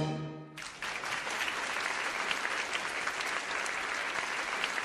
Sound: audience applauding

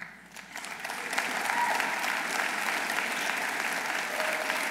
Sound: audience applauding

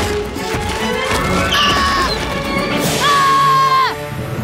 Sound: screaming

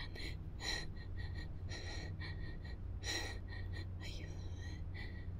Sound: heavy breathing

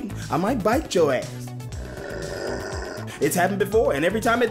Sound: growling

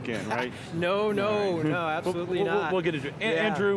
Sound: laughs

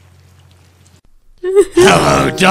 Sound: sobbing

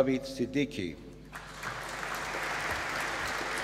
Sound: applause

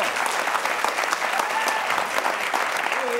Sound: applause

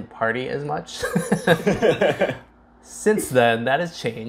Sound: laughs

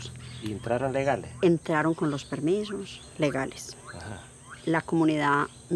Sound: speaking in foreign language

